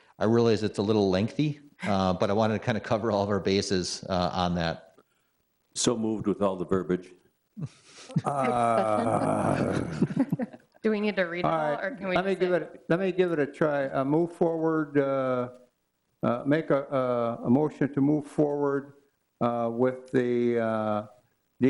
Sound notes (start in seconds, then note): 8.0 laughs